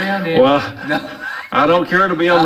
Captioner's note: chuckles